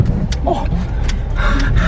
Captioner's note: lady groaning and laughing